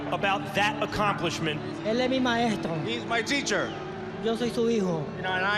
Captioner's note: speaking Spanish